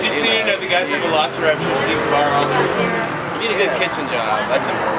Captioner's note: car engines drown out voices